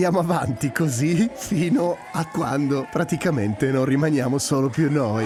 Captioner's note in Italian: Applauso